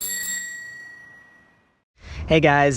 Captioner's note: bell chimes